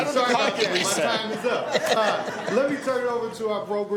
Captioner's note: laughing